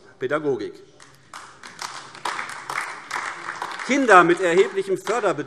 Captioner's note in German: Beifall AfD